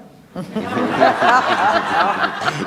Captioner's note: laughs